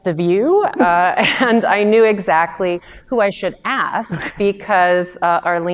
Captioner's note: chuckles